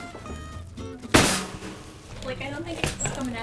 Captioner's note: metal tray clanging